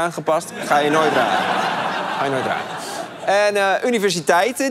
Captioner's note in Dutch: gelach